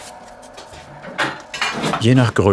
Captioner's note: clattering